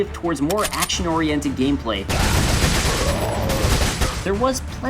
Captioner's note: gun Noises